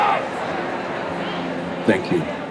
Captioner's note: chanting; ambient talking